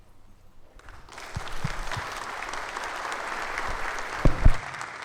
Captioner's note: audience clapping